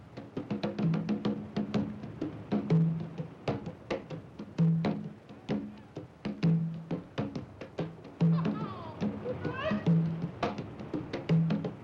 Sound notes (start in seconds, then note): 9.2 men yipping; 9.8 drum music